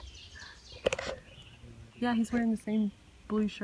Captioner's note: laughs